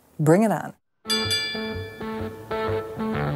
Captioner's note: rings